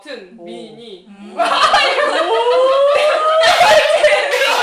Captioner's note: can’t help laughing; laughs